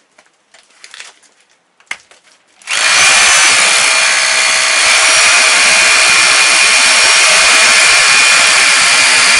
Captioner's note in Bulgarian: пробиване/къртене